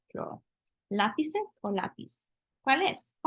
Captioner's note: spanish